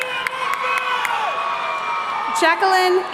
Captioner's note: audience cheering